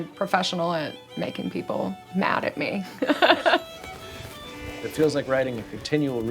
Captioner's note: laughs